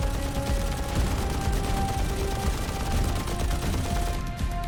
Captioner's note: gunfire